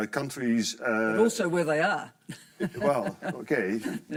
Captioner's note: laughs